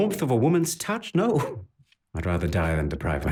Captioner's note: laughs